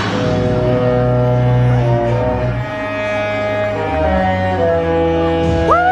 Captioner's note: ships horns blaring musically